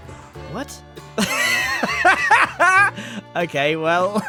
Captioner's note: laughs